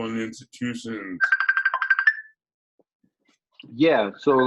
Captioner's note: phone rings